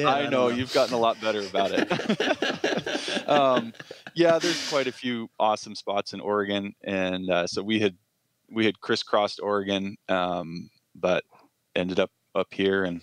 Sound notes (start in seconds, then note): 2.3 laughter